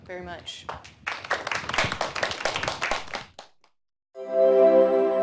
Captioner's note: applause